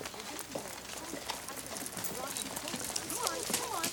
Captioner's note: distant chattering